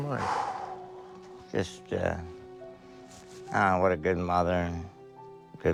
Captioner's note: sighs